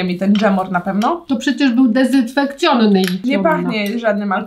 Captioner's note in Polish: rosyjski